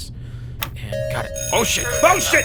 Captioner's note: alarm ringing